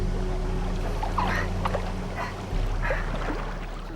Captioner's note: gasping